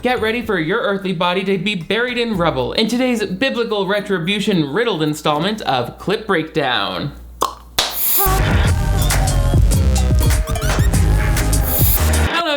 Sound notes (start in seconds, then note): 7.8 hands clapping; 7.9 static crackling; 7.9 upbeat music; 8.8 singers vocalizing